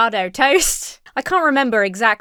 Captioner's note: laughs